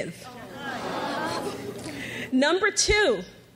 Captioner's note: graduates groan